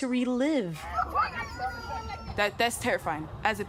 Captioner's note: children crying, screaming